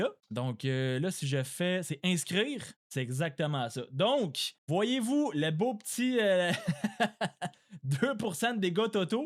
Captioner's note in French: rires